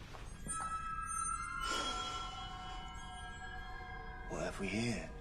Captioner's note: slGHS